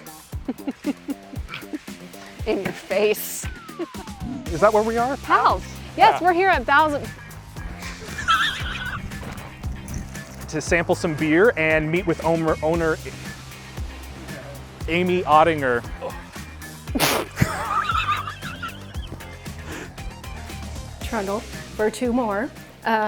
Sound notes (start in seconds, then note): 0.3 laughs; 7.8 both laughing; 16.9 both laughing